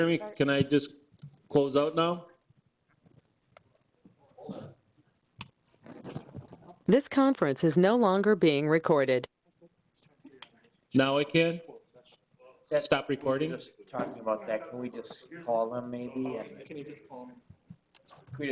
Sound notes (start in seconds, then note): 7.0 automated Voice Message